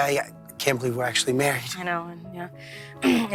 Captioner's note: clears throat